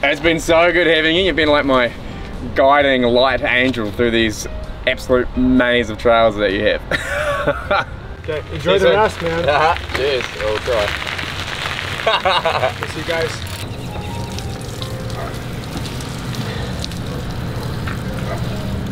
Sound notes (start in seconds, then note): 6.9 laughs; 10.0 chuckles; 11.9 chuckles; 12.7 birds chirp; 15.8 gentle music plays